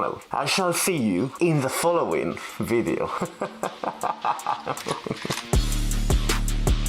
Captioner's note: he laughes like a lunatic